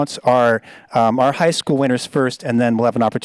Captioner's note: none